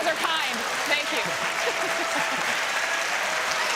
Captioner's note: applause